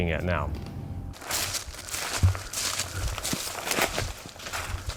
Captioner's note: leaves crunching